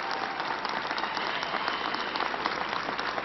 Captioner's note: applause